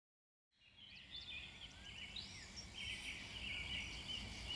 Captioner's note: birds chirping